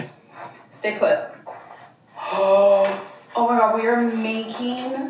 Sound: gasps

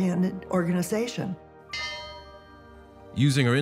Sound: bell clanging

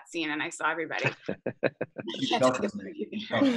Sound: chuckles

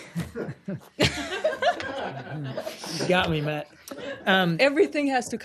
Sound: laughter

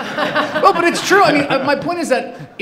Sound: laughing

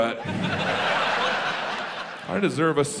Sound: audience laughs

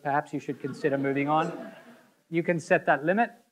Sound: audience laughing

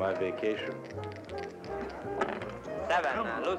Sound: dice clinking

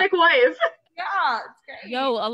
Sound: laughs

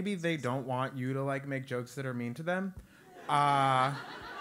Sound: laugh

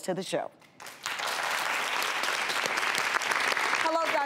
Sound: crowd applauds

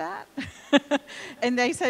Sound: laughing

